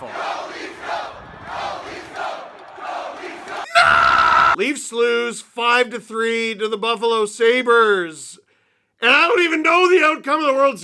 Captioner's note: screams